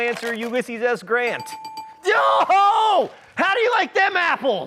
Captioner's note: bell dinging